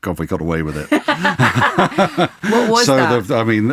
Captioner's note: laughing